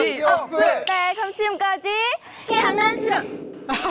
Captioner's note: wrap-up sound effect